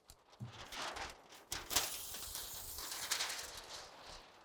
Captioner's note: paper crunching